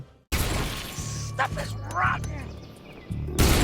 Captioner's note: explosion booming